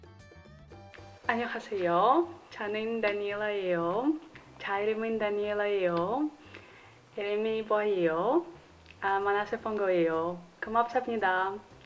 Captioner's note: speaking in Korean